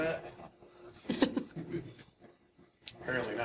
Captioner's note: audience chuckling